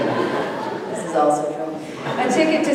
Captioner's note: audience laughing